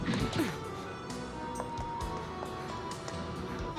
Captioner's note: grunts